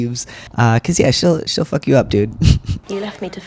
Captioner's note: laugh